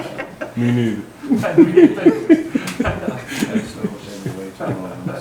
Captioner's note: audience laughing